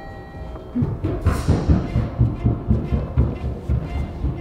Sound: doorbell rings; footsteps

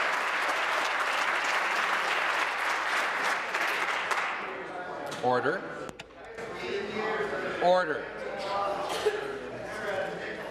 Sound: applause

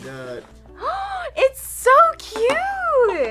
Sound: gasps

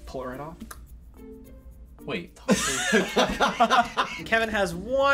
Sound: clicks tongue; laughs

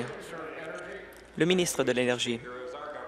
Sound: applause

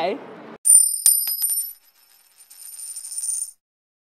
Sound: coin clinking

